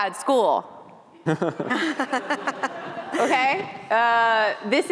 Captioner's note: laughter